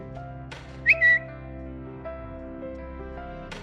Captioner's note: bird tweets